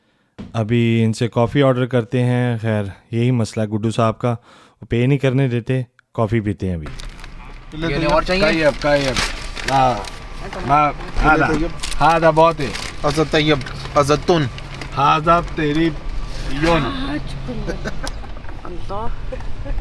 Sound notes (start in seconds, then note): 10.6 speaking in Arabic